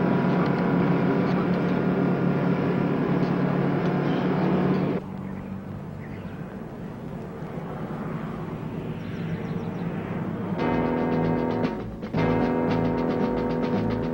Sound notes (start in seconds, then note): 6.1 truck whizzing in distance; 10.6 suspenseful music